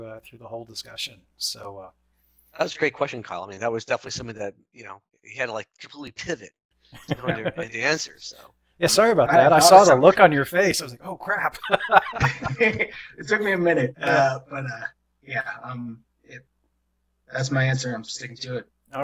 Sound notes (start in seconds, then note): 11.5 laughter